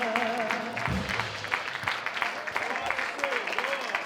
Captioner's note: audience applauds